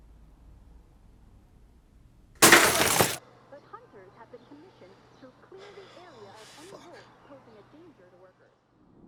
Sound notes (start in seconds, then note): 2.4 object crashes